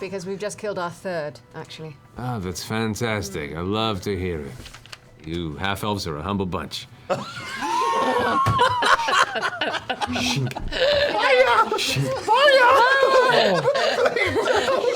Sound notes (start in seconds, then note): 7.1 laughter